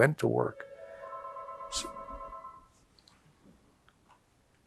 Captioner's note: phone ringing